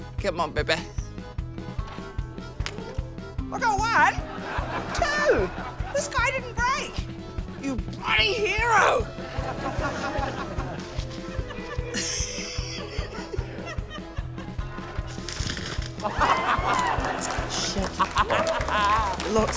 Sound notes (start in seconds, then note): 11.9 laughs; 16.3 laughter